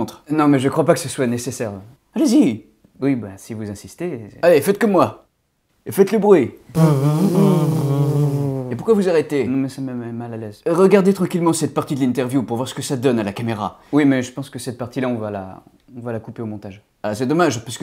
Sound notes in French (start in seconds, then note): 6.7 Bruits de bourdonnements